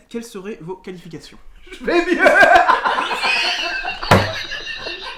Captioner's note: laughs